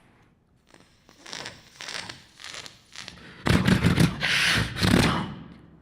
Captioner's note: beatboxing